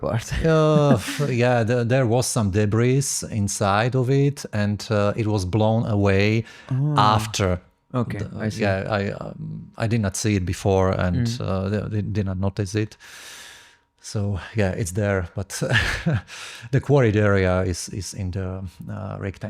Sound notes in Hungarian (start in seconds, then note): 15.6 nevetés